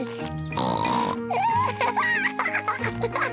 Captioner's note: oinks and giggles